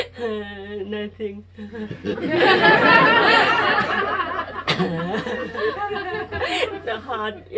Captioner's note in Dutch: gelach